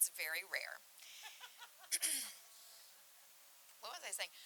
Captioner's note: laughing